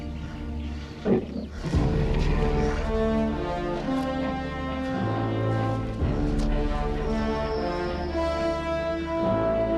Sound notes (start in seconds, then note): 0.9 bear grumbles; 1.0 strong grim music